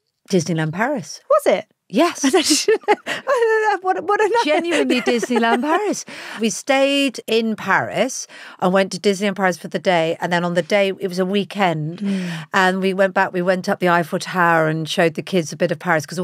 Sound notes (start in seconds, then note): 2.2 laughs